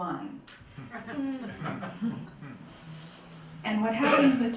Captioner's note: laughter